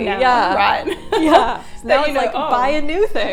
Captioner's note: laughing